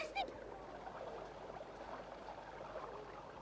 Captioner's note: babbling brook